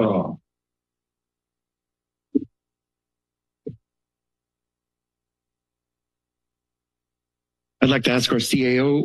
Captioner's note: silence